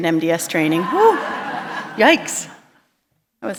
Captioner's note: laughter